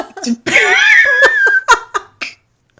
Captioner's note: laughing